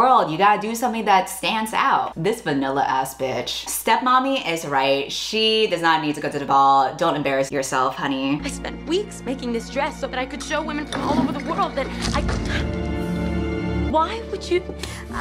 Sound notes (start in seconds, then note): 12.3 gasps